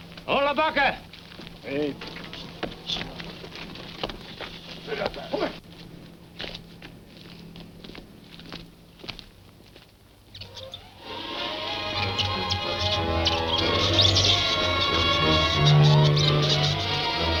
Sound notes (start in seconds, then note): 0.6 speaking foreign language; 10.4 monkeys chattering; 10.5 dramatic music